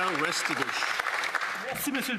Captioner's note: some Applause